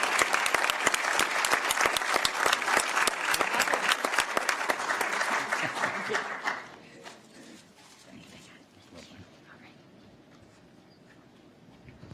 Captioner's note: applause